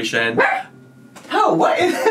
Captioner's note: Potato barks